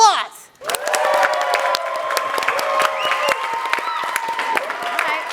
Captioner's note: audience claps and cheers